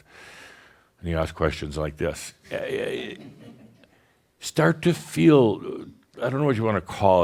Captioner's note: a few chuckles